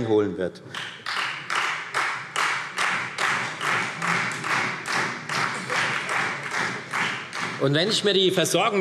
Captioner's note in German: Beifall Freie Demokraten